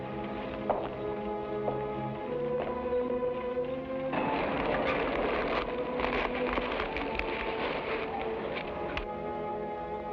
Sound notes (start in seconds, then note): 4.2 fabric rustles